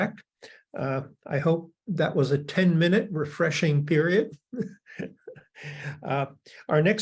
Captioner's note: laughs